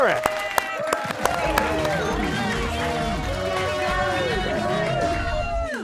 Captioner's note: cheers and applause